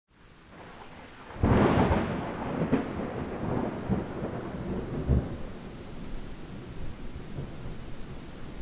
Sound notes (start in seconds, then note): 0.2 rain falling; 2.1 thunder